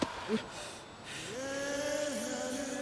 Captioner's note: gasping